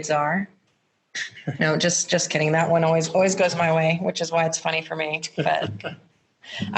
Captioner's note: both laugh